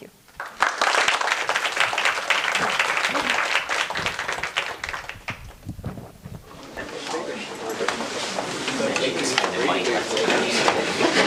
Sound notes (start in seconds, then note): 0.3 applause; 6.2 background chatter